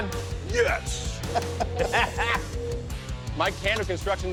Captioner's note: laughing